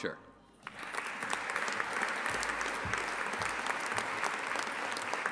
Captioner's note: audience applauding